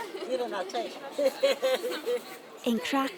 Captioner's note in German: Lachen